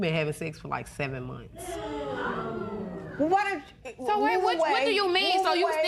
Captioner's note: spectators gasp